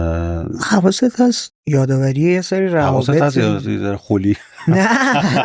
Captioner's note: laughs